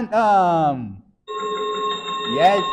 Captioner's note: chiming sound effect